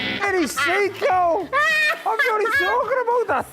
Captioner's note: laughing